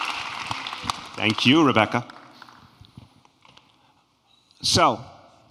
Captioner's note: applause